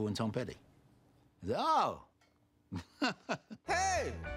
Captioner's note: laughs